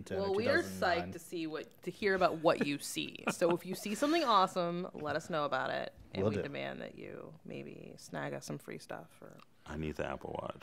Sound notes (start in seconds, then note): 2.3 chuckles